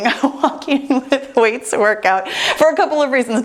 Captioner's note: laughs